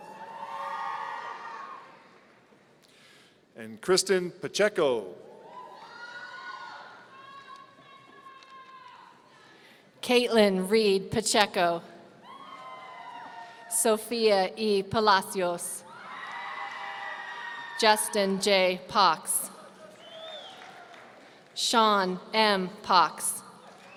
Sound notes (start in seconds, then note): 0.0 audience cheering; 5.4 audience cheering; 12.2 audience cheering; 15.9 audience cheering; 19.6 audience applauds; 23.7 audience cheering